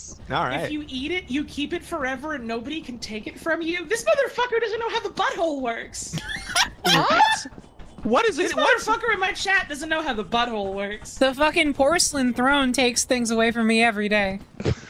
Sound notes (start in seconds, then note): 6.1 laughs; 14.6 laugh